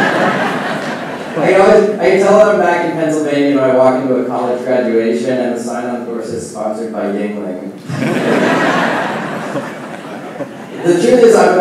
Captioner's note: laughing